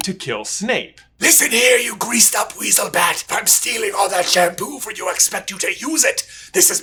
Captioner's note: Voldie voice